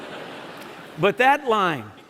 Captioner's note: laughter